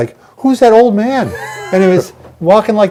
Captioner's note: laughing